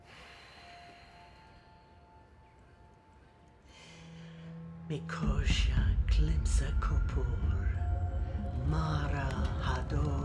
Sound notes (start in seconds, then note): 0.1 exhales deeply; 5.1 chanting in foreign language